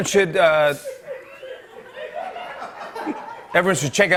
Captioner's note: laughter